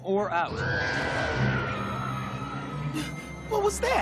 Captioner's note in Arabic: لمياء تصرخ